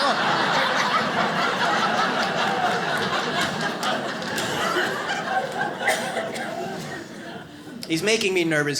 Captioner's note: audience laughs